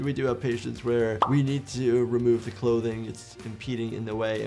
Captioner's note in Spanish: burbuja estallando